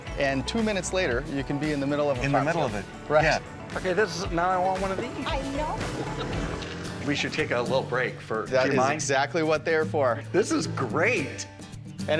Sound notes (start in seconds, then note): 5.3 engine revving